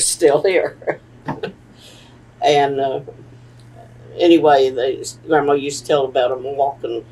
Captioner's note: laughs